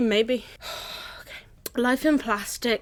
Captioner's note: exhale